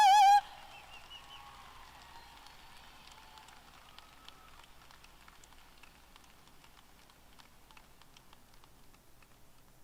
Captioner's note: applause